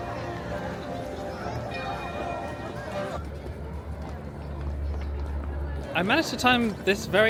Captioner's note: light music; bell ringing